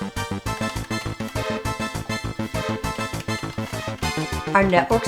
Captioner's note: keyboard clacking; spirited music